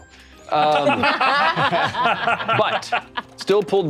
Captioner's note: all laughing